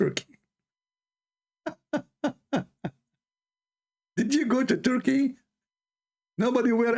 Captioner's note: Ketawa